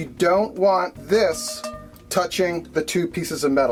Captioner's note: taps cast iron